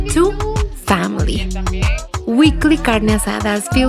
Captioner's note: speaking Spanish